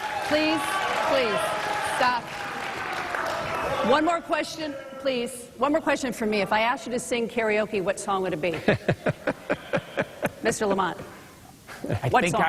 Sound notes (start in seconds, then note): 4.3 applause